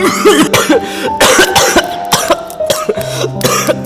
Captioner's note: coughing